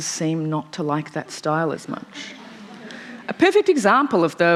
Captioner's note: laughter